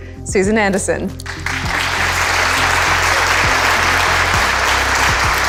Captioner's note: audience loudly clapping